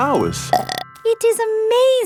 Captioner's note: burps